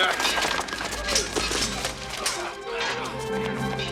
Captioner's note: laughs